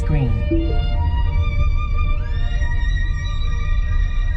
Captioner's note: car chimes